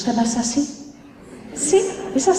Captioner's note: laughter